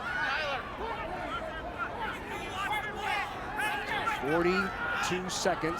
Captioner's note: teams shouting